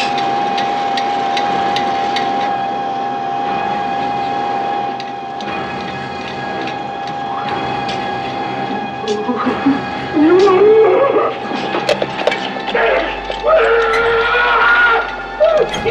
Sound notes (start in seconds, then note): 8.8 whimpering deeply; 12.7 grunting loudly